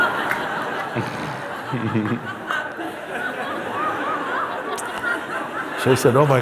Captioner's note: laughter